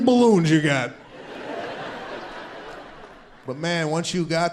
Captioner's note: audience laughs